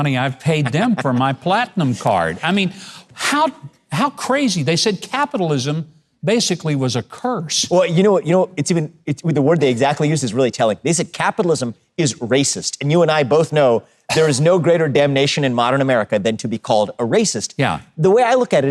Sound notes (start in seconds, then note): 0.5 laughs